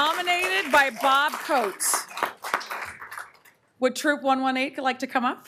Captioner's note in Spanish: aplausos